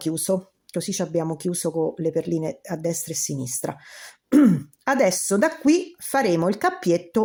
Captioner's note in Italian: schiarire la voce